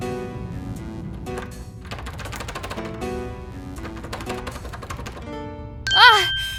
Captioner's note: door rattles, won't open